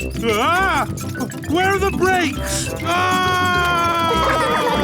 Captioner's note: scream